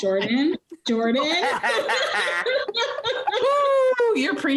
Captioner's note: laughing